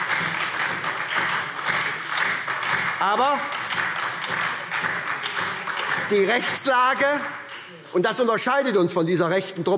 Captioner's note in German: Beifall SPD, vereinzelt Freie Demokraten und DIE LINKE